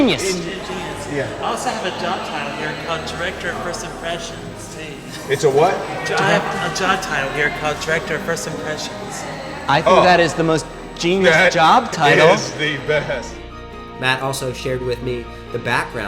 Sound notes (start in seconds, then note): 12.6 laughs